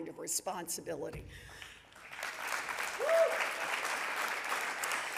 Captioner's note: audience applauding